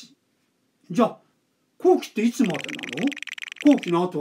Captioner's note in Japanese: ルーレットの音